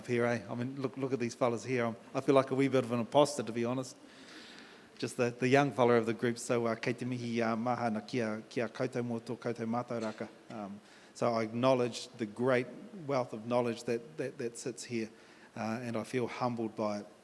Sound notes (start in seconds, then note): 10.6 in English